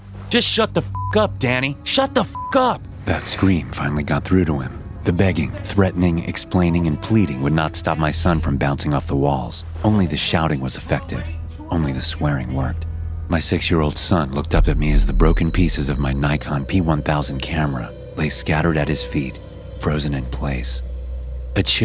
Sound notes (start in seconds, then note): 0.9 beep